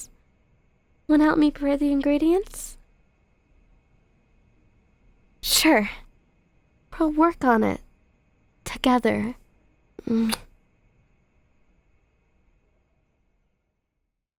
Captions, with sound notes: Wanna help me prepare the ingredients? Sure… we’ll work on it… together. (soft kiss)